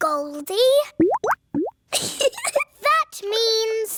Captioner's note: bubbling; giggles